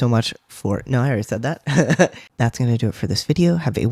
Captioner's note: laugh